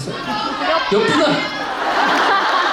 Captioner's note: laughs